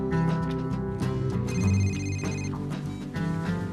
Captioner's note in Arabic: الهاتف الخلوي RlNGlNG